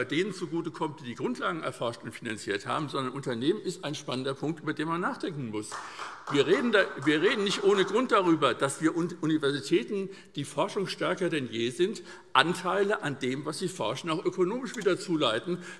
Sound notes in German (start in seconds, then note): 5.6 Beifall